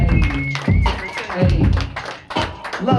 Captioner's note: crowd whistles